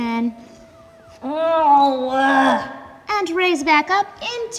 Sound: groans

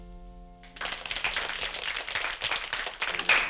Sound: applause

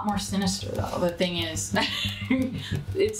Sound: laughs

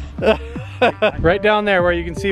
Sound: chuckles

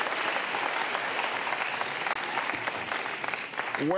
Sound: applause

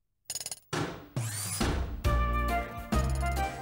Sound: drill and mechannical sounds

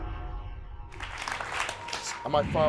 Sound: audience applauding

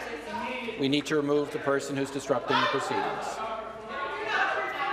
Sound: woman shouting

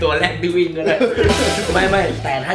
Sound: laughing

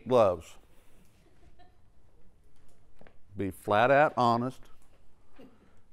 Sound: laugh

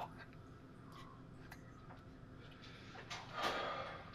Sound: sniffling

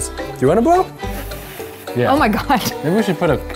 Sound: blowing

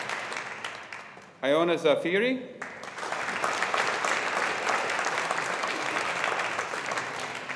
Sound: audience applauding

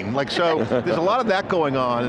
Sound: all laugh

